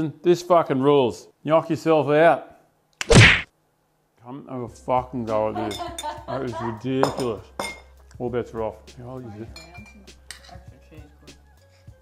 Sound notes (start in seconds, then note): 9.1 happy eating noises